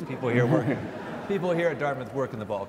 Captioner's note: audience laughs